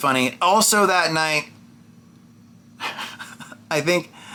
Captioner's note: laughs